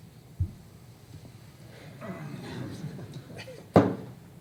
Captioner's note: laughter